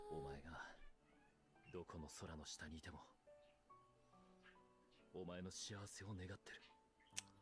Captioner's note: in Japanese